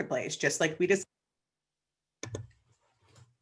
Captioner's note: audio drop